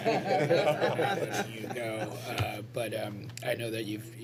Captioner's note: laughter